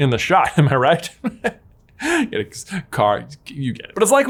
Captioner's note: laughs